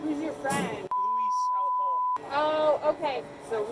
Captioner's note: beep